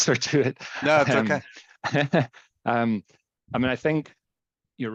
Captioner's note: chuckling